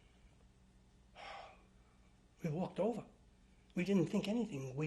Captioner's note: sighs